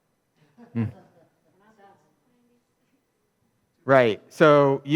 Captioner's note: audience laughs